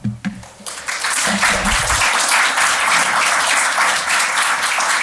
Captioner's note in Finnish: Aplodeja